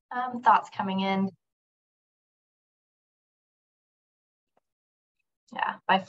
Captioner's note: silence